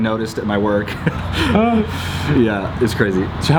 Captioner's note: laughing